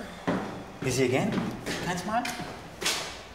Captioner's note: mixes up English and German